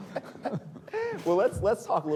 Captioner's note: laughs